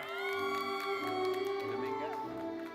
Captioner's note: attendees cheering; gentle classical music continues